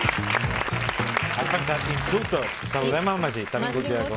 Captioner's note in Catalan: aplaudiments